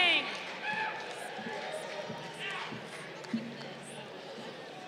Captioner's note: crowd cheering